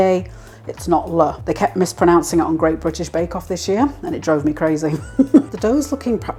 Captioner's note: chuckle